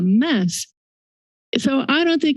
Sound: silence

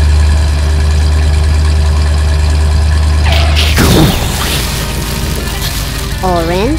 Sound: engine noise; explosion; skid

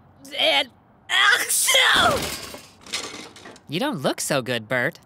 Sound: sneezing

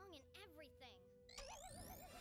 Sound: alarm blaring

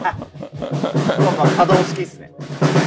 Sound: laughing

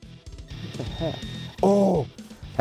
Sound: beeping

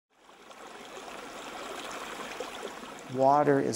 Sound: sound of water

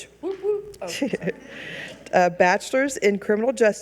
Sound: audience chuckles

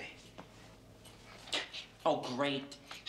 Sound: imitating Woody Allen

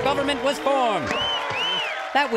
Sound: cheers, whistles

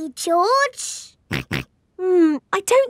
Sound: snorts

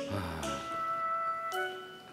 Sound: sighing

